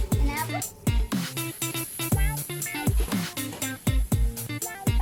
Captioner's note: grilling sounds